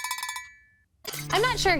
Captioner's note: sound of cowbell